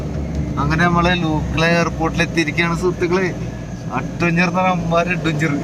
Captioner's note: flight lands